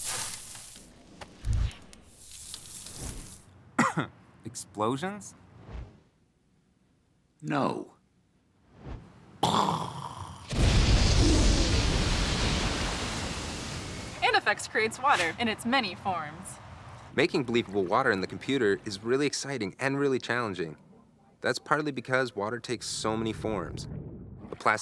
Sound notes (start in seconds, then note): 0.0 sizzle and crackling; 3.7 cough; 10.5 loud, dramatic boom; 10.5 bang